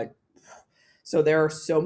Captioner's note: blows